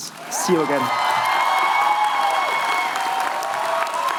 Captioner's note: cheering